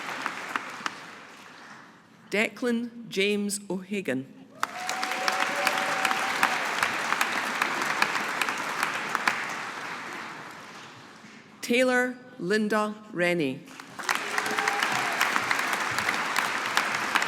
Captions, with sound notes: Declan James O'Hagan. (AUDIENCE APPLAUDING) Taylor Linda Rennie. (AUDIENCE APPLAUDING)